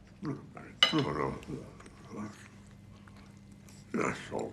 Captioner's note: man muttering